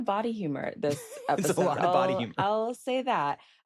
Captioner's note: laughing